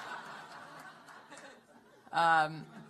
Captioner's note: laughter